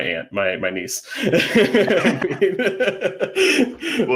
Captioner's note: laughing